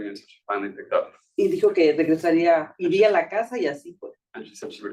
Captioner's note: speaking Spanish